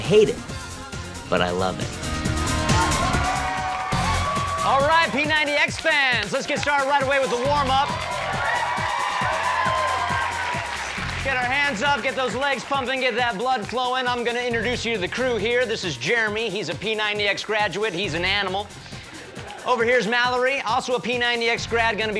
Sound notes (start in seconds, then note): 3.8 applause; 10.0 cheering